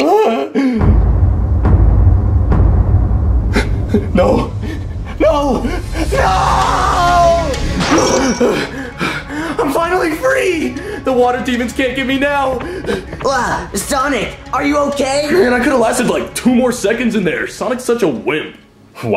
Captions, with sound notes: Ah. (dramatic music) No! No! No! (dramatic music) (Sonic panting) I'm finally free! The water demons can't get me now! - Ah! Sonic, are you okay? - Man, I could have lasted like two more seconds in there. Sonic's such a wimp.